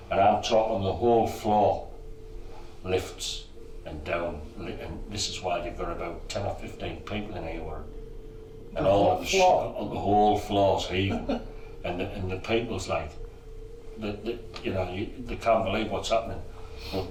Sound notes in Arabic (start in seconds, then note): 10.9 يضحك; 13.3 يقلد التأتأة